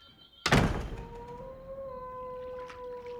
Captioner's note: door closes